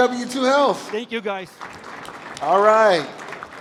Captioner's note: applause